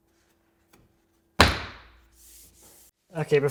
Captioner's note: board snaps